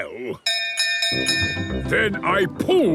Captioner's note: bell chimes